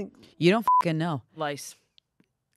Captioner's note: beep